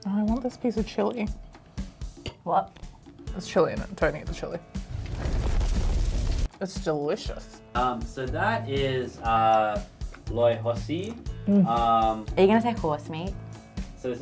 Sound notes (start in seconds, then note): 4.7 fire crackles